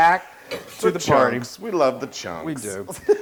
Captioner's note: laugh